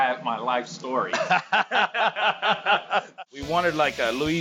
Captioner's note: laughing